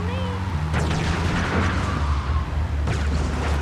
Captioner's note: engine roaring